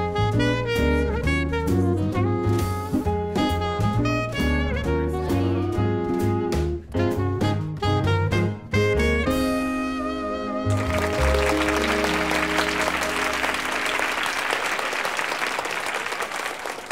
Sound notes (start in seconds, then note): 10.6 audience applauding